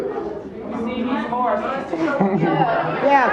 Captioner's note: audience murmuring